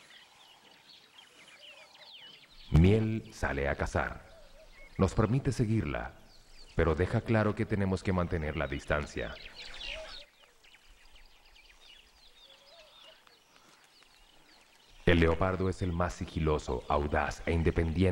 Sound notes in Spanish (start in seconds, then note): 10.5 sonidos selváticos